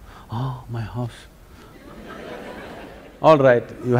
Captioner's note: laughter